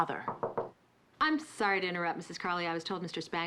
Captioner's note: knock on door